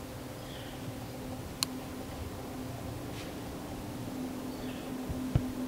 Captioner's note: footsteps heard in the leaves